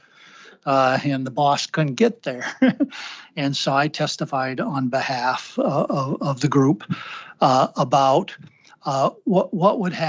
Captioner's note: laughter